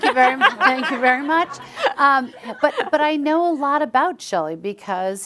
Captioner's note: chuckles